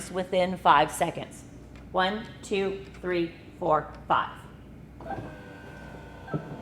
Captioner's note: sound of legs retracting